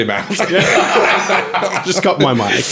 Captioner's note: laughing